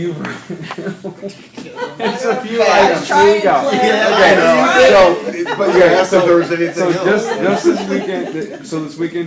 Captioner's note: laughter